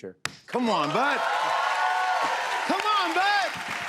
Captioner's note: cheers and applause